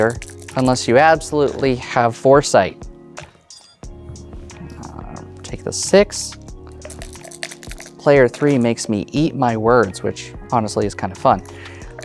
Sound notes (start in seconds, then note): 0.0 dice rattling; 0.0 dice rolling; 6.8 dice rattling; 9.3 dice rolling